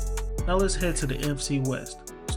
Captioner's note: voiceover